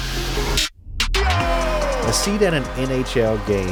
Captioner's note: man yells